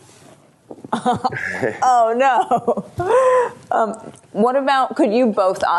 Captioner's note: laughter